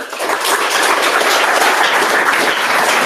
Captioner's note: applause